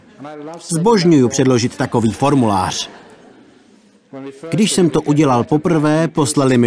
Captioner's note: laughter